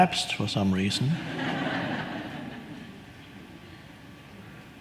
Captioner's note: audience laughs